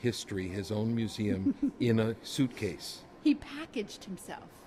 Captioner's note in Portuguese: risinhos